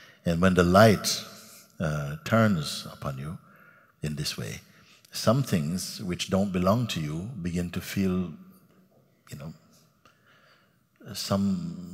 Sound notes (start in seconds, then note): none